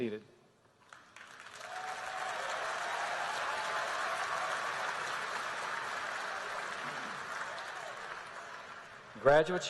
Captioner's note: applause